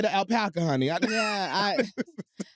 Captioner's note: laughs